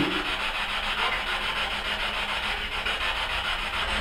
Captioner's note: static buzzing